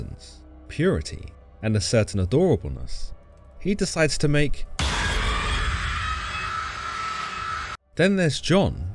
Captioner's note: dramatic scream sound